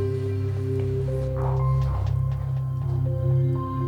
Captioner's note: sighs